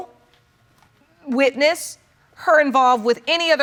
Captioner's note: none